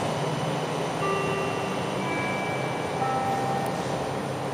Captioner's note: ding, deng, dong